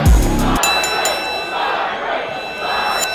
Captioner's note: fight bell rings